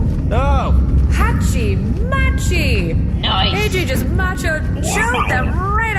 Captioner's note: shouting